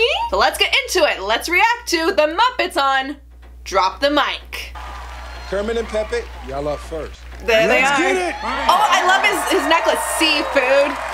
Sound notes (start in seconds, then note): 4.7 crowd cheers